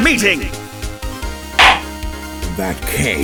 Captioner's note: gavel slams!